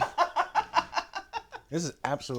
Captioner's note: laughs